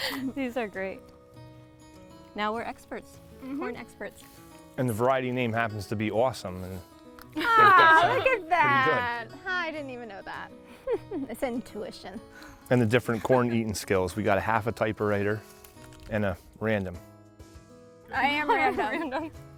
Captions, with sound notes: These are great! - Now we're experts. - Mhm! And the variety name happens to be "Awesome". Aww look at that! I didn't even know that! *jokingly* It's intuition. And the different corn eating skills - we got a half a typewriter and a random. *giggles* I am random.